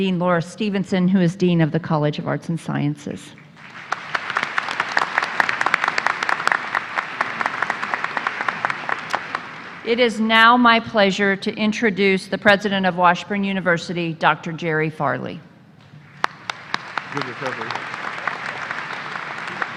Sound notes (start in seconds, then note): 6.3 applause; 19.6 applause